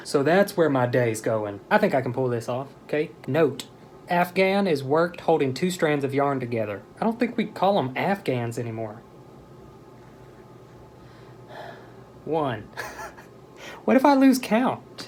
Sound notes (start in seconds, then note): 9.3 deep breath